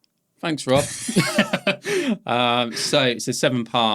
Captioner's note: both laughing